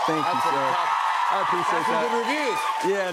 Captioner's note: cheers and applause